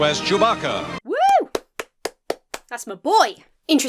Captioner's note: cheers and claps